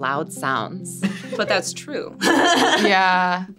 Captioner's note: laughs